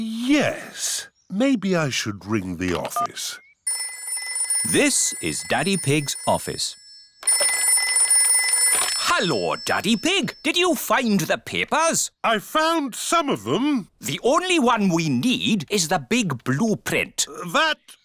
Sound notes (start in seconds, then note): 4.4 phone rings